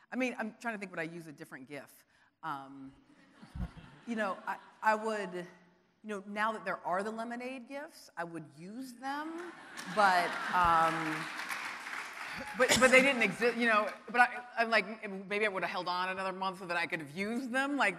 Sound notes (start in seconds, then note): 3.4 audience laughing; 9.7 audience applauding